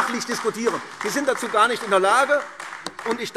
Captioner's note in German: Beifall AfD